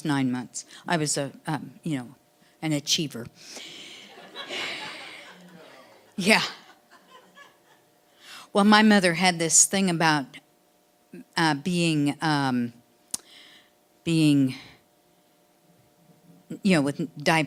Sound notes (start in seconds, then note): 3.9 audience laughing; 4.9 sighing